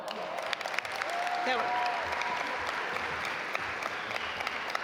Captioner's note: audience applaud